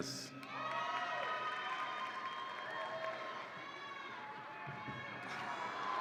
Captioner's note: audience applauds and cheers